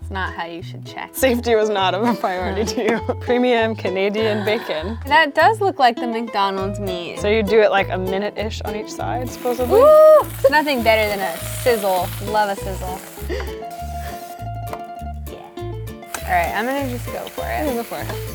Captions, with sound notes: Not how you should check. - Safety was not a priority to you. Premium Canadian bacon. - That does look like the McDonald's meat. - So you do it like a minute-ish on each side, supposedly. (Canadian bacon sizzling) - Ooh! There's nothing better than a sizzle. Love a sizzle. I'm gonna just go for it. - Yeah go for it.